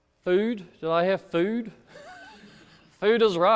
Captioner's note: laughs